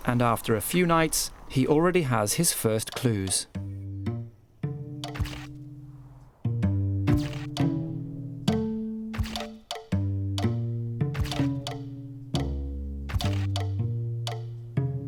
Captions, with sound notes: And after a few nights, he already has his first clues. (curious music) (camera clicks)